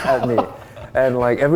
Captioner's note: laughing